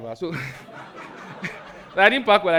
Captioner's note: audience laughs